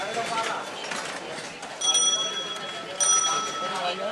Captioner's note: bicycle bell rings